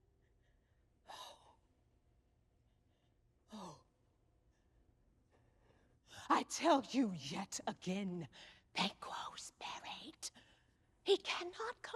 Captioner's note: whispering